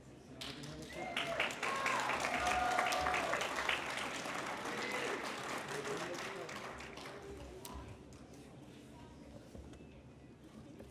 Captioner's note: applause